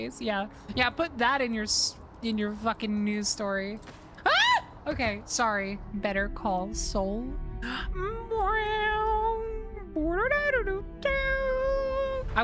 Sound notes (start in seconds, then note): 4.2 scream; 7.9 Mimicking Better Call Saul Theme